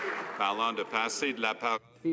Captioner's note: some Applause